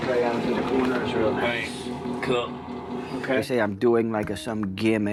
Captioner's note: voiceover